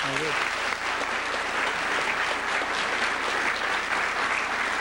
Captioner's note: applause